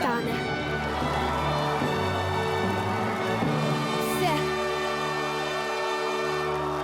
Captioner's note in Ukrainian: оплески